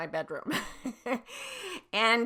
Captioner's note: laughs